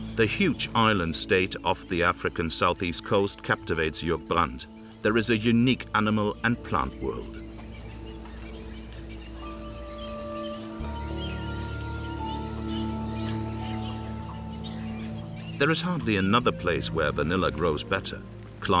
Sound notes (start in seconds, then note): 7.4 birds chirping; 7.4 gentle orchestral music